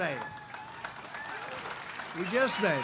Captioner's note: applause